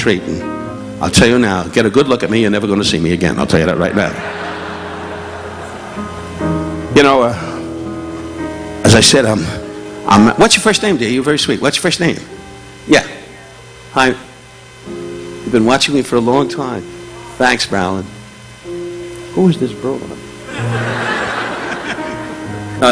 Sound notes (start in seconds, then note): 3.8 audience laughing; 6.3 relaxing piano music continues; 20.4 audience laughing